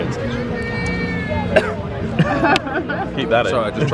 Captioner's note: coughs